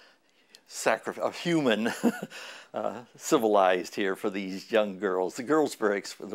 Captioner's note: chuckle